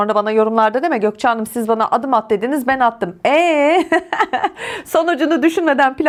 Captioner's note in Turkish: kahkaha